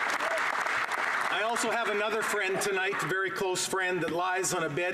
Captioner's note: applause